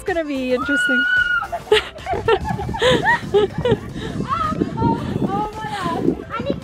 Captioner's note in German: schreit; lacht